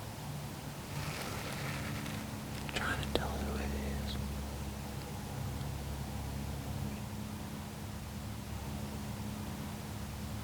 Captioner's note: whispering